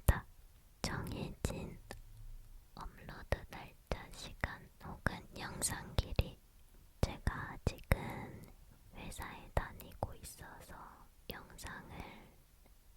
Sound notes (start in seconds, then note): none